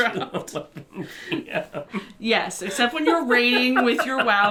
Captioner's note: laughing